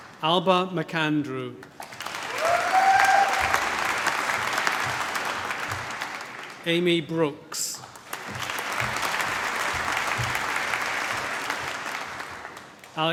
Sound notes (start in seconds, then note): 0.0 applause; 1.8 cheering, applause; 7.7 applause